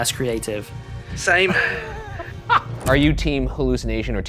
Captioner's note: laughs